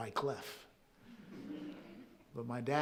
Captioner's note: audience chuckling softly